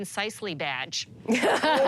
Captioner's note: laughter